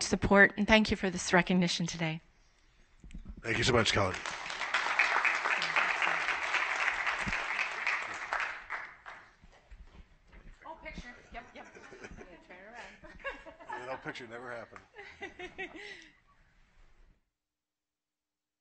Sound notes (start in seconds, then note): 7.5 applause